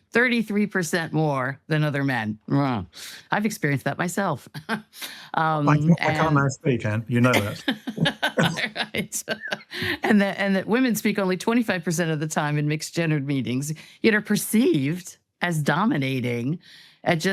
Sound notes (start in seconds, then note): 5.6 laughs; 7.2 all laugh